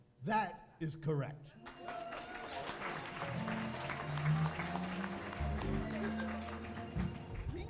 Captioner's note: applause